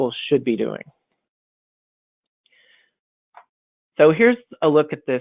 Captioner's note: silence